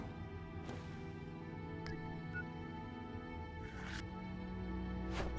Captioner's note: electronic beeping